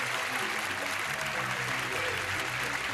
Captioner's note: clapping